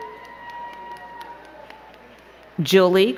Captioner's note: crowd cheering and clapping